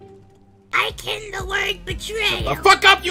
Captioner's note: in his Cactus!Steven voice; in his auto-tune Steven voice